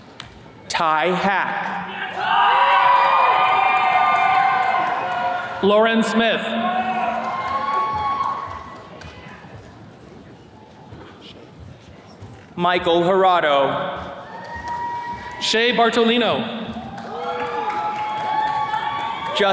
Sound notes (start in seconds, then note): 1.8 attendees cheering; 14.1 attendees cheering; 16.8 attendees cheers and claps